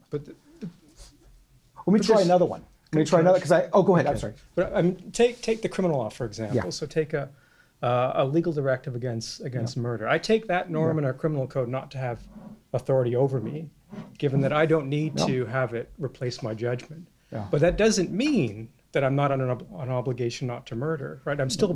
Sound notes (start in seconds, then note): 0.4 voiceover; 4.7 voiceover